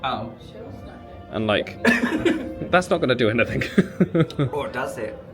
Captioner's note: laughs